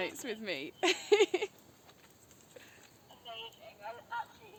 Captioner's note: laughing